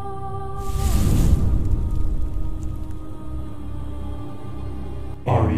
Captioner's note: flames